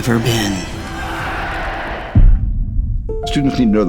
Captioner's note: crowd chanting